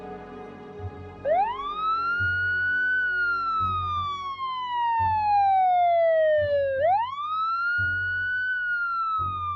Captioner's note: sirens